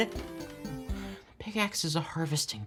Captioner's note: sighing